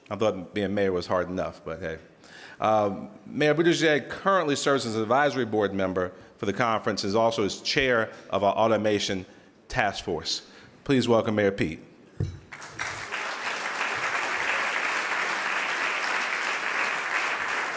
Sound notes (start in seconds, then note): 12.5 audience applauding